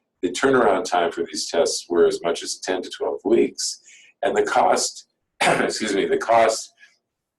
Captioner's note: coughs